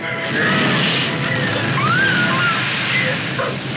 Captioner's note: Lisa screams